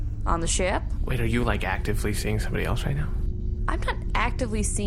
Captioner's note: hushed